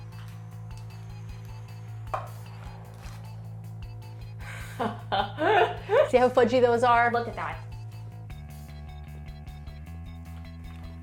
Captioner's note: laughter